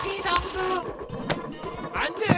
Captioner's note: coins clinking; book thudding